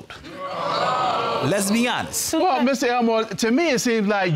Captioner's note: audience groans